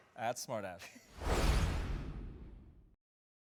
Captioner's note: swoosh